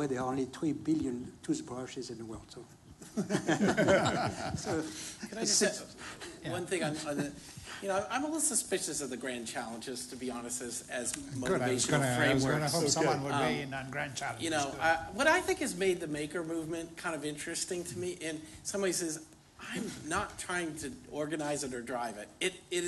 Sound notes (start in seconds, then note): 3.0 laughter